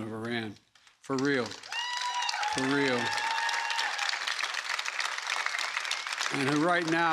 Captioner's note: applause